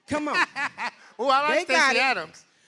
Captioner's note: laughter